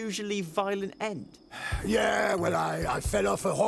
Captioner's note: sighs